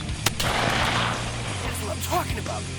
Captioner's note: gun shot